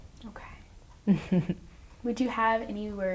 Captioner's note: chuckles